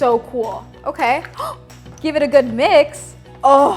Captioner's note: gasps